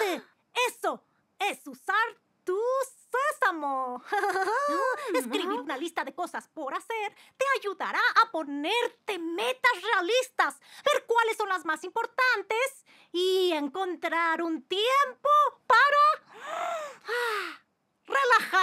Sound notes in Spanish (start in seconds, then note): 16.2 Kori inhala; 16.3 Kori exhala